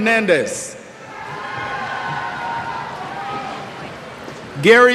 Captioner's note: cheers